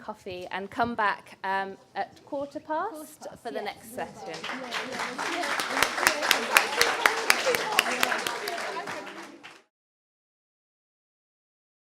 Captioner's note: applause